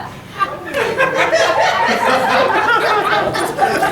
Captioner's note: audience laughing